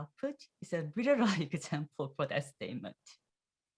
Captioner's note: laughs